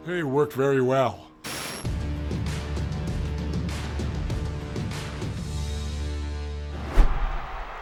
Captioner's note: static crackling; compelling music; audience cheering